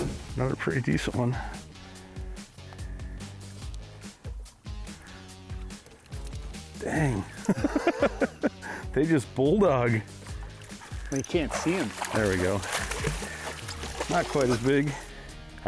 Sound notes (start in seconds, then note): 2.6 upbeat music continues; 6.8 laughs